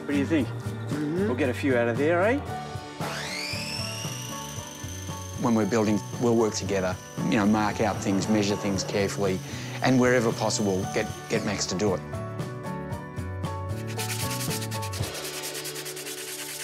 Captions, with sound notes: - What d'you think? - Mm-hm. - We'll get a few out of there, eh? (SAW WHINES) 'When we're building, we'll work together ― 'you know, mark out things, measure things carefully 'and, wherever possible, get Max to do it.'